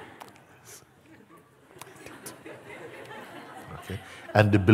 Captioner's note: imitiert Verzweiflung; Lachen